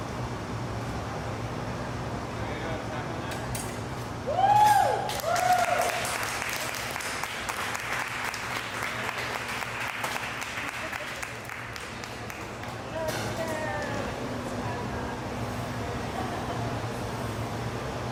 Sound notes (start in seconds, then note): 4.3 cheers; 5.8 applause